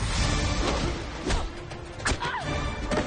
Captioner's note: grunting; screams